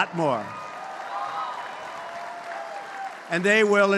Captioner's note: applause